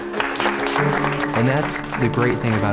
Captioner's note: applause